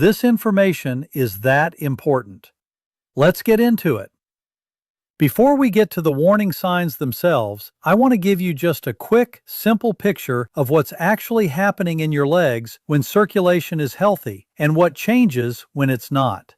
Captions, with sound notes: Let's get into it. [pause] Before we get to the warning signs themselves, I want to give you just a quick, simple picture of what's actually happening in your legs when circulation is healthy — and what changes when it's not.